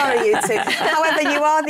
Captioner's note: laughter